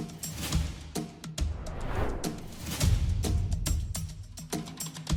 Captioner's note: air swooshing; tense music